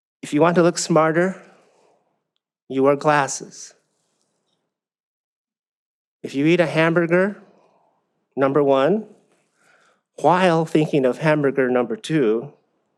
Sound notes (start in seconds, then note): none